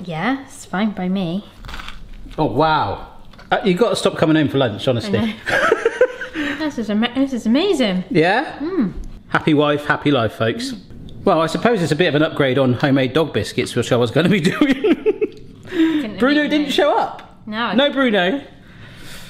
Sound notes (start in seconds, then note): 5.4 laughing; 14.8 laughing